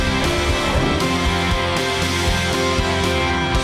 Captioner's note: swooshing